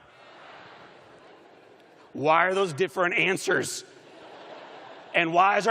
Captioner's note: laughter